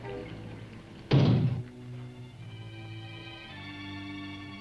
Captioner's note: ominous music; knocks once on door; ominous music